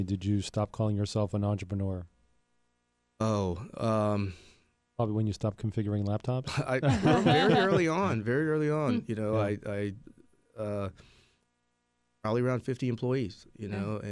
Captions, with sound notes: did you stop calling yourself an entrepreneur? Probably when you stopped configuring laptops? (laughing) - Very early on, very early on, you know I, probably around 50 employees.